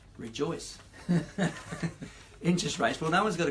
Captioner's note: laughs